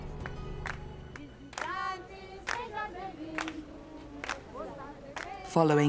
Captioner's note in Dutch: geklap en gezang